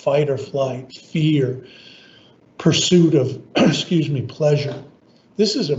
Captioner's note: coughs